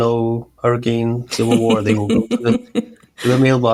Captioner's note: laughing